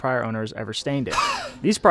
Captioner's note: gasps for air